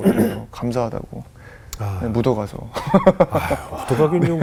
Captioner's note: laughing